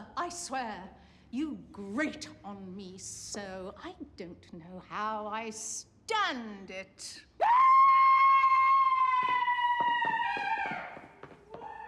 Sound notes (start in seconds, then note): 7.4 screaming; 8.3 footsteps running away